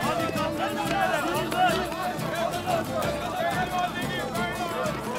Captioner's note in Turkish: Tezahürat sesleri